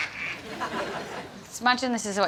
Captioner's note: imitating a quack